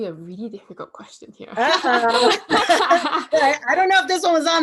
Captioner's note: laughter